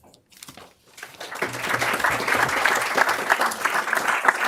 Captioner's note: applause